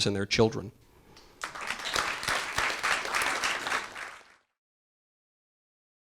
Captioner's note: audience applause